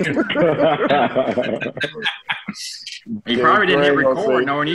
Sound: laughter

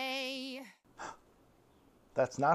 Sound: gasp

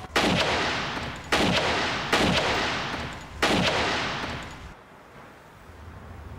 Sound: gunshots

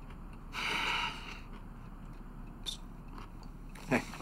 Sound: Jake sighs

